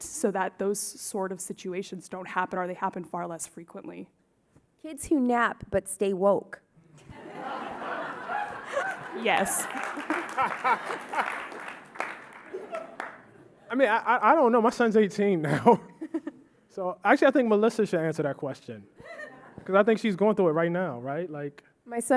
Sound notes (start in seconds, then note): 7.0 audience laughing; 10.7 audience clapping